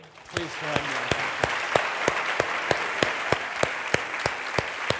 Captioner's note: audience applauds